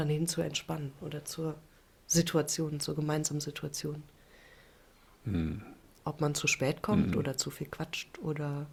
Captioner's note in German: räuspern